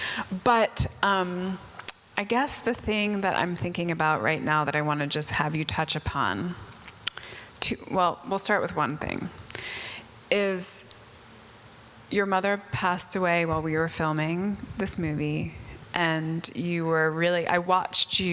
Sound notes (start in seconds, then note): none